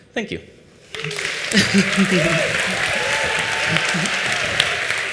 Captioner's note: applause